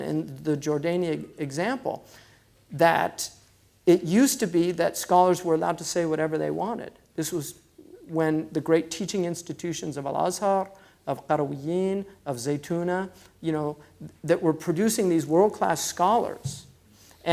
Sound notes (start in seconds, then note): 10.6 foreign language